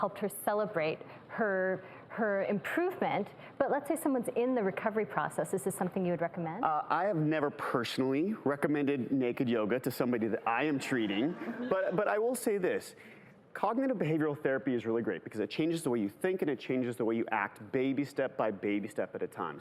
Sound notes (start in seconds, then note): 11.2 audience laughs